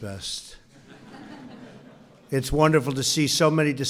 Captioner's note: laughter